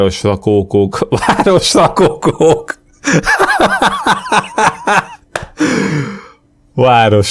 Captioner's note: breaks into laughter